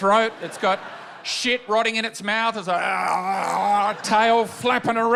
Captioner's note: gurgles